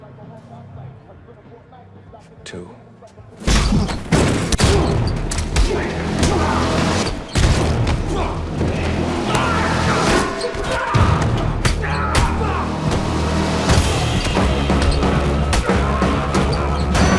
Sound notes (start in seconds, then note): 3.4 head slamming; 4.5 punches landing; 8.0 men grunting; 13.6 dramatic intense music